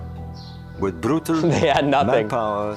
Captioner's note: giggling